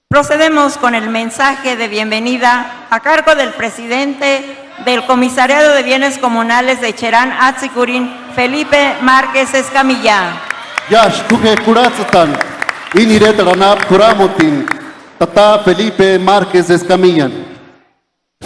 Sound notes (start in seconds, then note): 10.1 applause